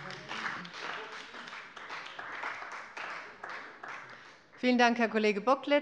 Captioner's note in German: Beifall bei dem BÜNDNIS 90/DIE GRÜNEN und der CDU